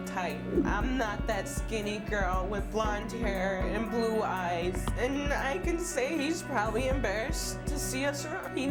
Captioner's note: none